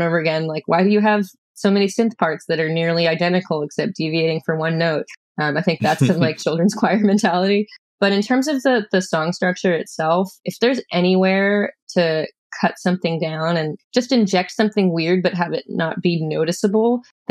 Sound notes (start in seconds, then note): 5.8 laughter